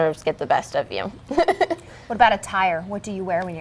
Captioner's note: laughs